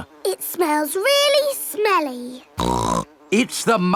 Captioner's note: snorts